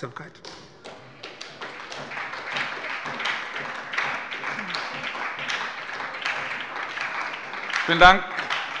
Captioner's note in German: Beifall bei der SPD